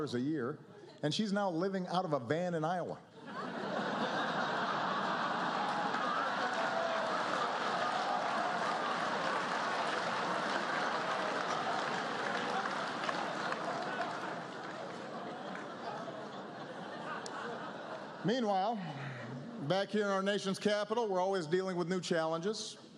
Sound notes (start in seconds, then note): 8.4 laughter